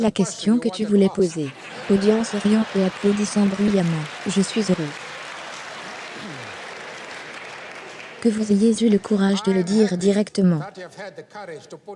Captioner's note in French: audience riant et applaudissant bruyamment